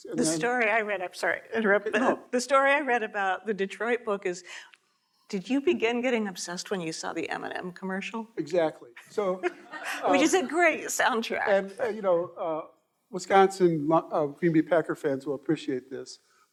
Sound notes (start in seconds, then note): 9.2 audience laughing